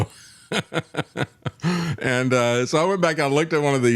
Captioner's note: laughs